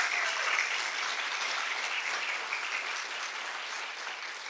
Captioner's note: audience clapping